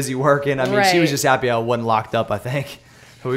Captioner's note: laughs